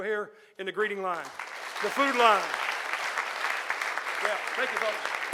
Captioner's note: audience applauding